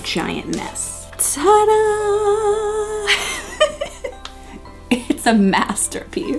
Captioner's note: laughing